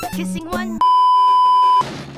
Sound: beeeeeep

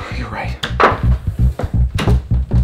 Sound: door opens

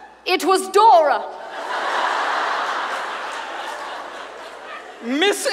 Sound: audience laughs

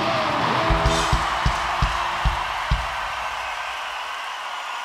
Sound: audience cheering

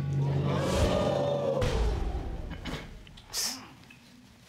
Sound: audience exclaiming

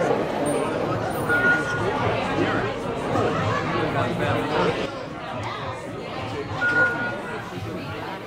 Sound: ping sound

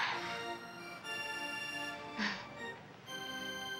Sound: nervous laugh

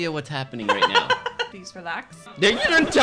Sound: laughing

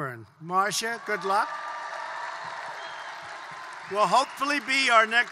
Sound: applause

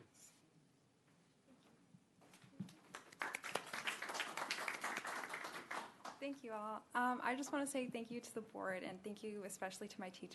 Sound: applause

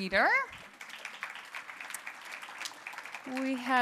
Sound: applause

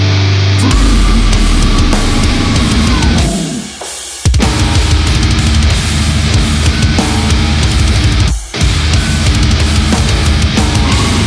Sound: blargh

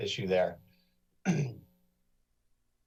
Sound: clears throat

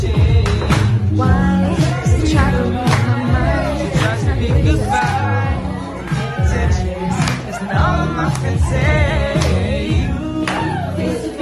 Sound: applause

